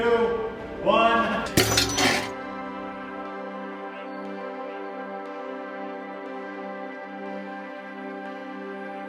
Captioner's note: clank sound then music